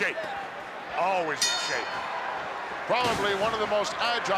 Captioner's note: bell rings